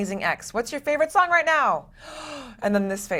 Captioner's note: gasps